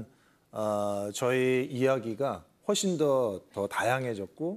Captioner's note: none